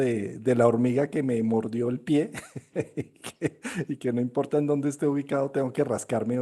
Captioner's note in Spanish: risas